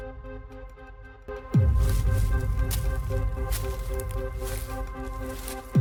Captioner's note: leaves rustling and crunching